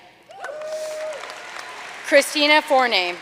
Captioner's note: audience cheering and applauding